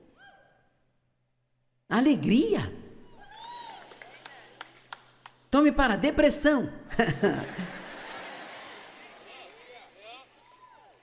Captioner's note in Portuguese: audiência se alegra